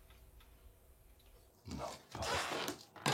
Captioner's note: quietly